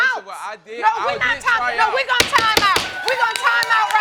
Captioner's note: bangs gavel